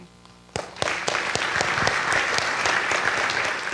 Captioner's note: audience clapping